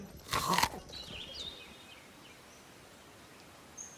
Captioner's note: apple crunches